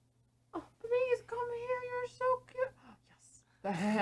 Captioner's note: happy gasp